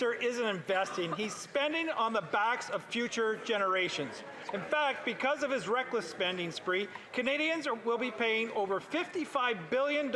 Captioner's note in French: voix de l'interprète